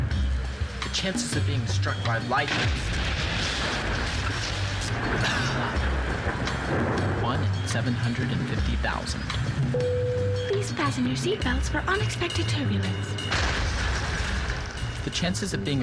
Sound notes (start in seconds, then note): 6.0 thunder crashes